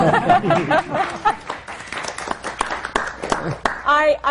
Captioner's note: laughter; applause